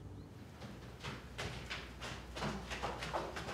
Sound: footsteps

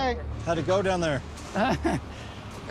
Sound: laughs

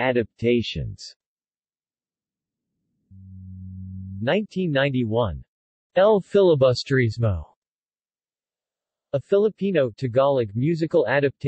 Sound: Tagalog

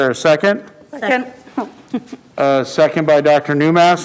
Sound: chuckles

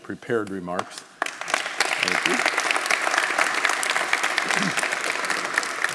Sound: audience applauding

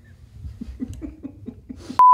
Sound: laughing

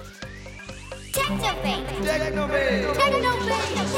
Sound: echoing

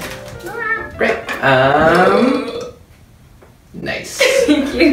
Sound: burps

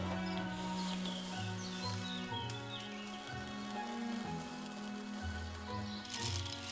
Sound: tinkling

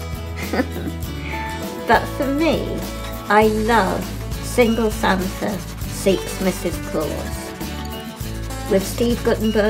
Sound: laughs

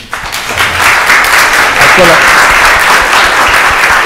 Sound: audience applauds

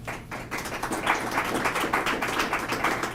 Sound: applause

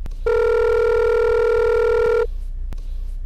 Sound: phone rings

